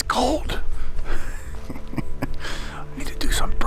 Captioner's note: laughing